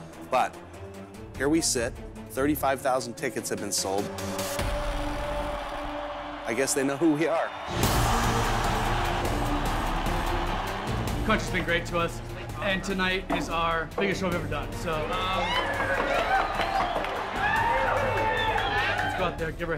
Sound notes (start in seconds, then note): 8.9 cheering; 15.0 cheering